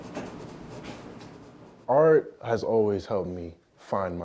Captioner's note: pencil scratching on paper